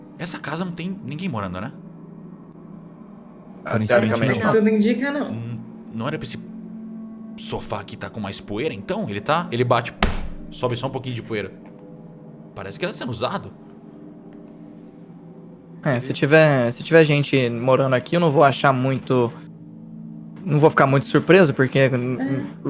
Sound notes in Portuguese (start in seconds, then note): 10.1 puff